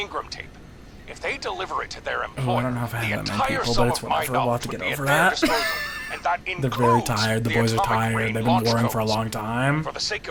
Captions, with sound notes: Oh, I don't know if I have that many people, but it's whatever, we'll have to get over that. (laughs) They're very tired, the boys are tired. They've been warring for a long time.